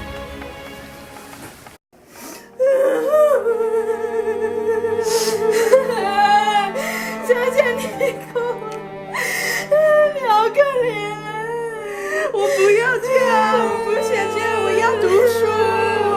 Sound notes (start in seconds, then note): 2.5 sobbing